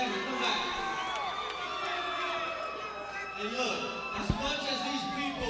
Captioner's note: crowd cheering